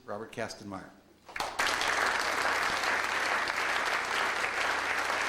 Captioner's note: audience applauds